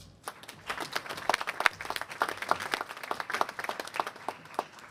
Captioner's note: applause